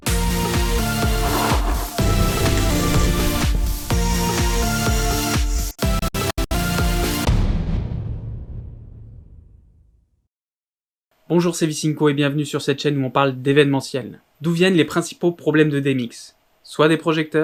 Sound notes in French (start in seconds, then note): 7.3 Boum